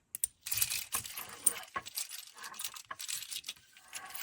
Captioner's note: buttons rattle